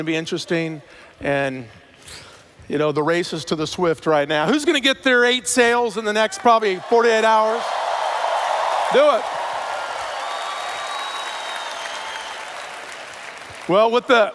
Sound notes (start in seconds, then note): 8.2 cheers; 10.3 cheers/Applause